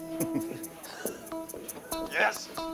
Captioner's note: people laughing